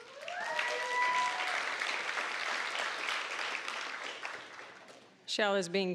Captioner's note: applause, cheering